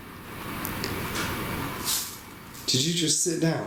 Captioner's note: bench squeak